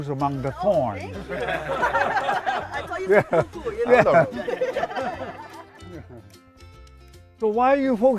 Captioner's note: laughter